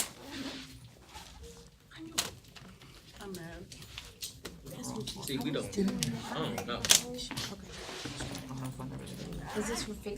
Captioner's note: students murmur